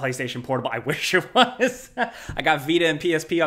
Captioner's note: laughs